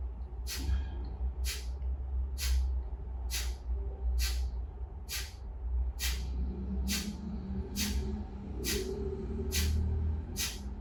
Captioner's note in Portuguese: respiração